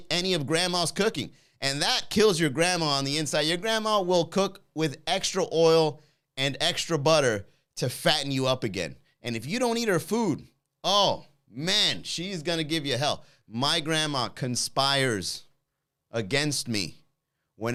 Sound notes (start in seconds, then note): none